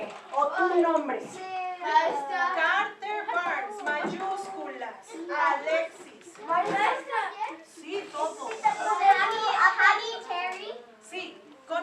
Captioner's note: discussing classroom activity in Spanish